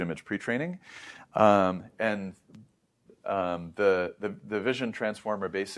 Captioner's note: inhales deeply